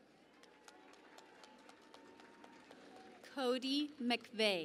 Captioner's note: cheering and Applause